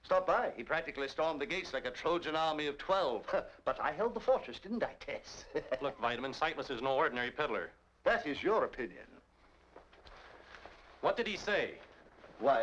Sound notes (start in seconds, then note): 3.3 scoffs; 5.3 chuckles